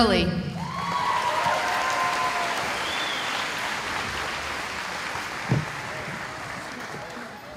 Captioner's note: cheering